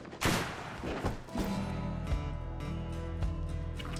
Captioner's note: gunshot banging